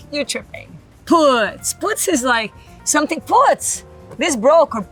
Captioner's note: speaks Portuguese